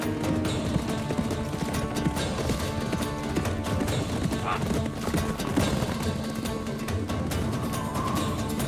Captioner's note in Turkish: At nalı sesi